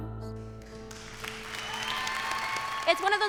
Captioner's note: cheering and applause